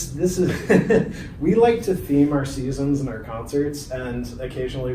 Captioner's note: chuckling